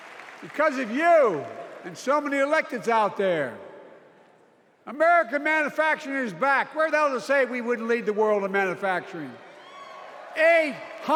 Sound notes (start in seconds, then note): 1.8 cheers and applause